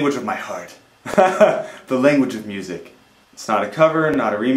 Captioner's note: laughs